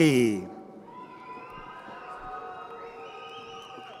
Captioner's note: crowd cheering